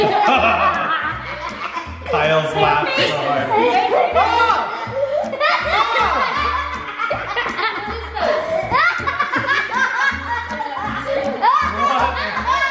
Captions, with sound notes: (laughing) Kyle's laughing so hard. - Their faces! (yelling) (uncontrollable laughing) - What is that?